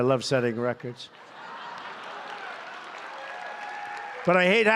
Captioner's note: applause